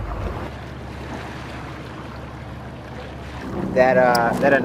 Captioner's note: motor rumbling; water sloshing